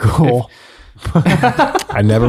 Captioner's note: friars laugh